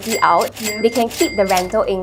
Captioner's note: cash register dinging